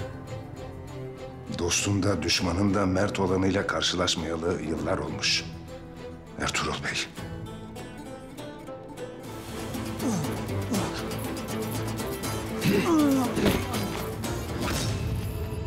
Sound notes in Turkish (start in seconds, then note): 9.6 İnleme sesi